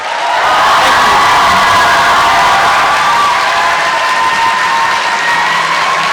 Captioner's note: applause